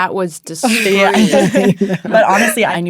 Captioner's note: people laughing